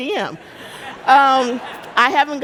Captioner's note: audience laughing